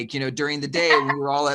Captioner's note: laughing